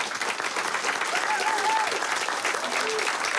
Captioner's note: applause; cheering